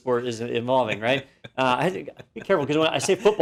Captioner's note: laugh